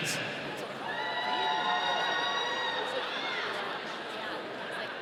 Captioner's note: audience cheering